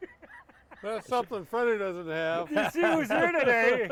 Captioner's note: laughs; laughing